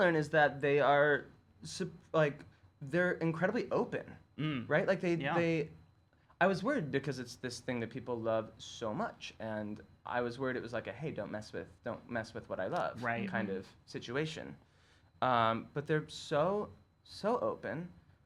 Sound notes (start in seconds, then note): 4.4 humming